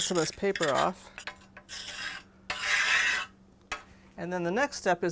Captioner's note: scraping noise